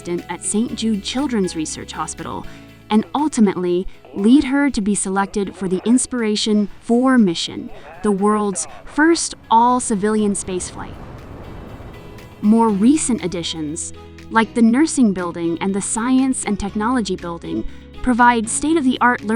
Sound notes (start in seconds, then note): 4.2 space launch coutdown; 10.2 rocket launch; 11.6 upbeat pop music